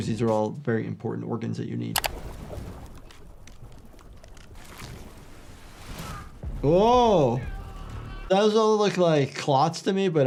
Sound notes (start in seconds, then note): 2.0 mouse clicking; 2.9 blood sloshing; 7.0 Simon screams